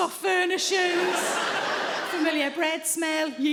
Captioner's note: audience laughing